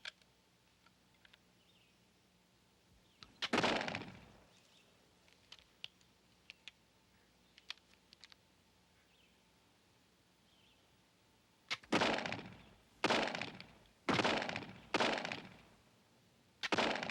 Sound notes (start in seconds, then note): 3.4 gun fires; 11.9 guns firing